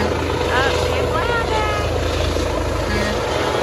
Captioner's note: trucks honking